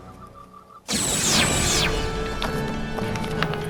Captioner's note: weapons fire